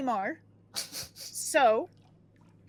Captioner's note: snickering